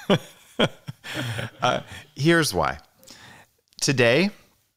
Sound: laughs

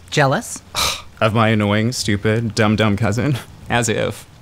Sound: scoffs

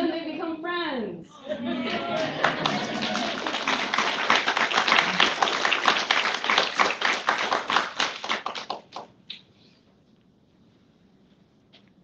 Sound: applause

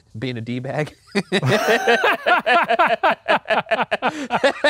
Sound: both laughing

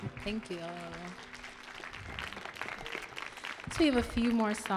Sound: audience applauding

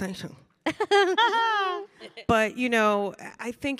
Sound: panelists laughing

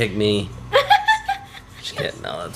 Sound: laughs

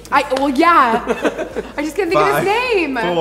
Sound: laughs

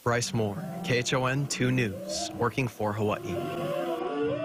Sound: laughs

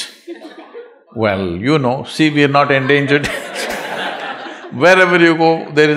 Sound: laughter

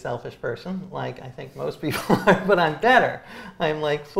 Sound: laughs

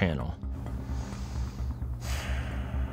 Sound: breathes

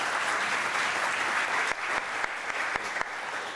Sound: applause

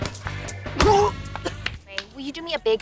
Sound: grunting

